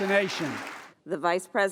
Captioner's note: applause